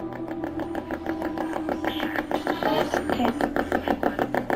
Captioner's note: ghost box buzzing